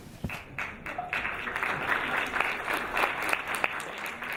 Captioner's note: audience applauding